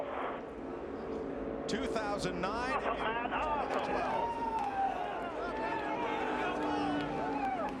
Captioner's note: radio